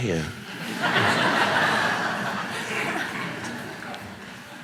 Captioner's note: audience laughing